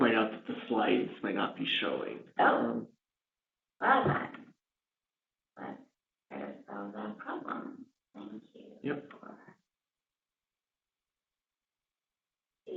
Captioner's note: pause